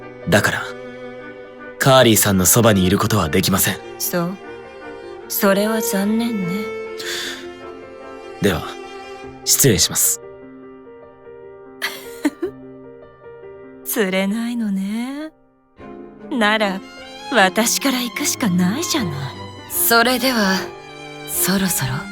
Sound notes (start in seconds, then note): 11.8 giggle